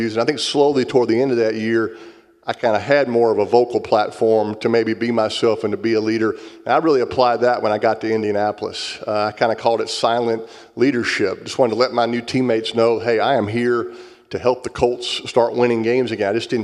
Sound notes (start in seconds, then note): none